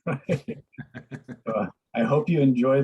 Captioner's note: laugh